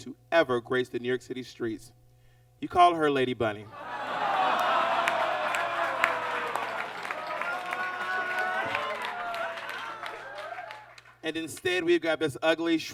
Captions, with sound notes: to ever grace the New York City streets? You call her Lady Bunny. [audience laughs] And instead, we've got this ugly,